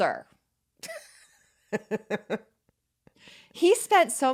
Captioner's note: laughing